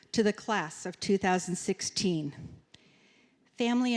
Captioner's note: none